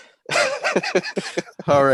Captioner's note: laughing